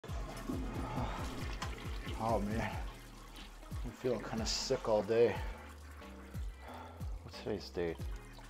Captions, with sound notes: *toilet flush* Aw man, I've been feeling kind of sick all day What's today's date?